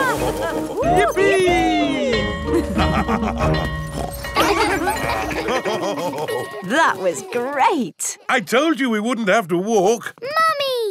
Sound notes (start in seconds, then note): 0.0 both laughing; 1.1 school bell ringing; 2.6 both laughing; 3.9 daddy pig snorts; 4.1 children laughing; 5.5 daddy pig laughing